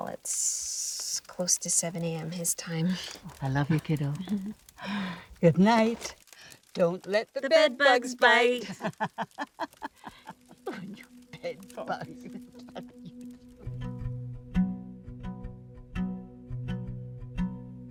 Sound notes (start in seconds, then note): 8.6 Betty laughing; 15.4 soft music